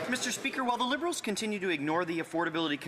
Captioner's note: some Applause